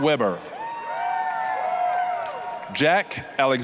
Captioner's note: applause, cheering